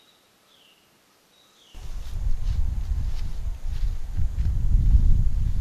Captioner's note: chirping; crunching leaves